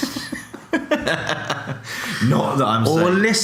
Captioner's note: laughing